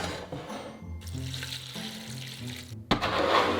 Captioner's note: water pouring